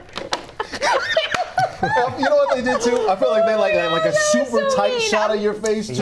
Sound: laughter

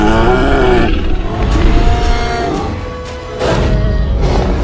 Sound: triceratops sounds

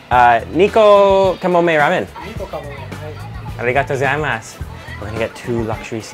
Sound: speaks in foreign language

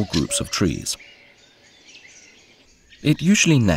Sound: sounds of nature

